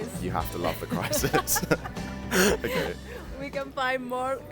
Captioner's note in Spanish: risas